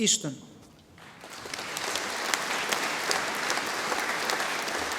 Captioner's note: audience applauding